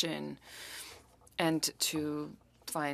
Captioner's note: speaking French